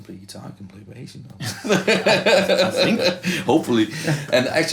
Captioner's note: laughter